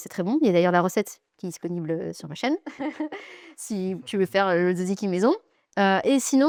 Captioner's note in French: rires